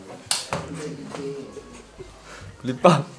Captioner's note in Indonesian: hahahahahahaha